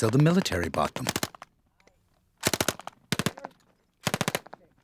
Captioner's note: gunfire